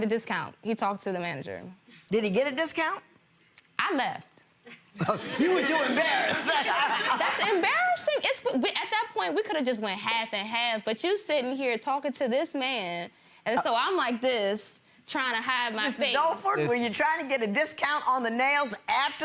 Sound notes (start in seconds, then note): 5.0 laughs; 5.0 gallery laughs